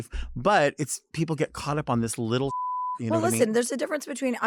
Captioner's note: beep